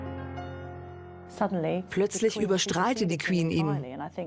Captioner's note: voiceover